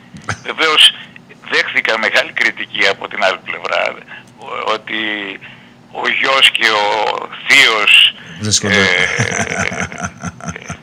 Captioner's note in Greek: γέλια